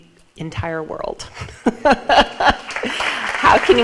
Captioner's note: laughs; audience applauds